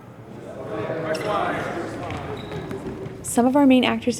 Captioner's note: group chattering